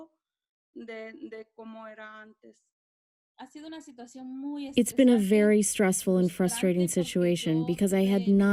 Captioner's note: through translator